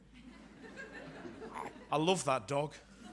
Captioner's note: audience laughs